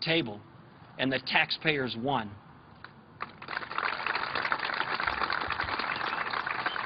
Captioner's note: applause